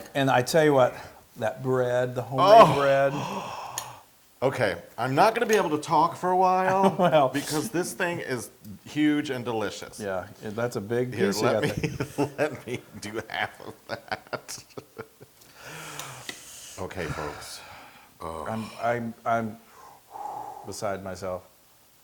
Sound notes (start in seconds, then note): 6.6 laugh; 11.2 laugh